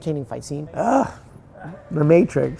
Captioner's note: groans